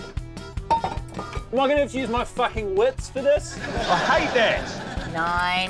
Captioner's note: clattering